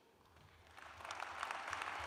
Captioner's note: applause